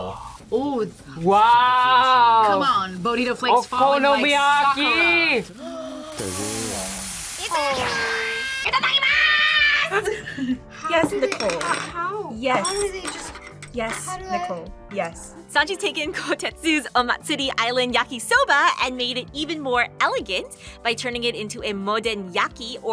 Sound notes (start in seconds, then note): 5.5 gasps; 10.1 laughs